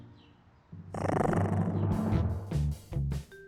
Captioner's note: growls